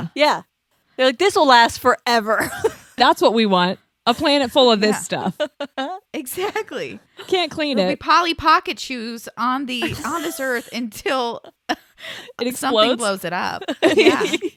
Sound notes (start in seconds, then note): 2.6 laughs; 5.0 laughs